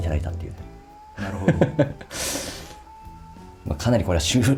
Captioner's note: laughs